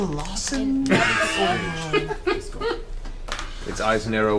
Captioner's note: all laugh